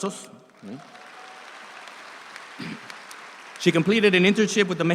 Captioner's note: audience applauds